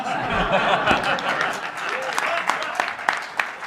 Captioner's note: laughter and applause